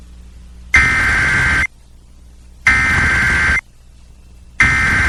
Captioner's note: SAME header tones